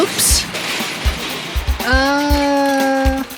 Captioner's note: crashing